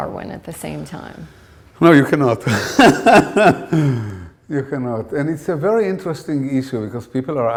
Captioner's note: laughter